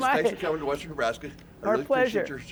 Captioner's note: laughter